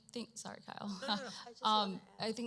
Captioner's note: chuckles